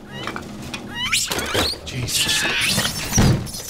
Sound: monkey squeaks; monkeys chatter

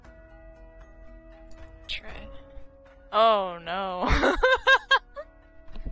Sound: laughs

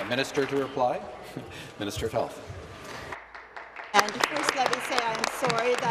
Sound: applause

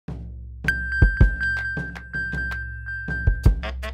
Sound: iphone pinging

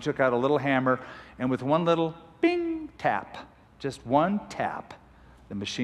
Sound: bing

